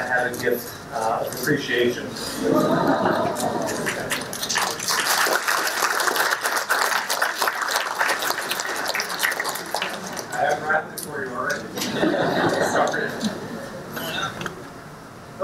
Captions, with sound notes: I have a gift of appreciation. (laughing) (applause) I haven't wrapped it for you already. (laughing) Sorry.